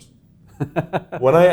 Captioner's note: chuckles